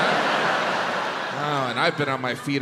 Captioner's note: crowd laughs